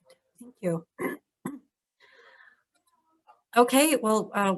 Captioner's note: clears throat